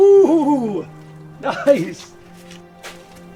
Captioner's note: laughing